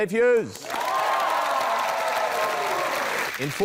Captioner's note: cheering, applause